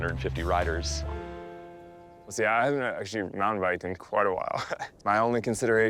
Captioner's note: chuckling